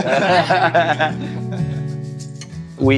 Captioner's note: all laughing